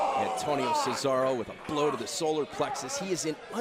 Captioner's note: crowd cheering